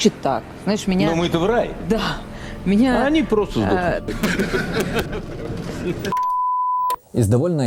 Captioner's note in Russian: Путин смеется